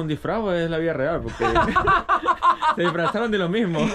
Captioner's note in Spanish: Risas